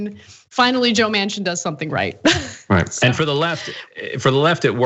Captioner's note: laugh